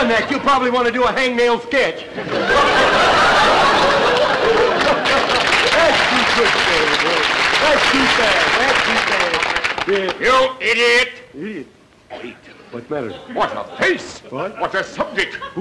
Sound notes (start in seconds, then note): 2.0 audience laughter; 3.6 applause